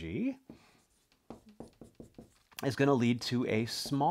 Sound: marker tapping board

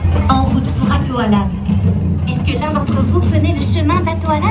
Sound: Elsa speaking in French

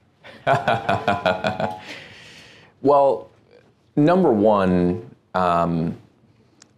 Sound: laughing

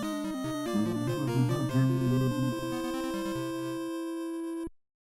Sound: humming along

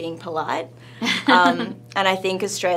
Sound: laughing

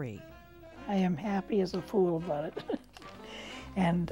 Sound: chuckling

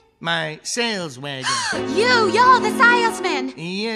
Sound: Lucille gasping

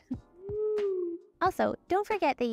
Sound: owl hooting

